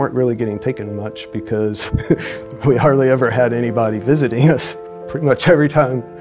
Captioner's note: chuckles